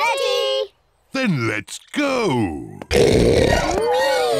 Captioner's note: oinks